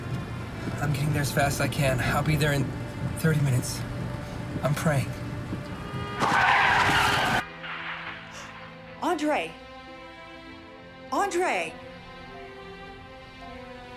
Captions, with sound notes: - I'm getting there as fast as I can. I'll be there in 30 minutes. I'm praying. (car crashing) - Andre. Andre!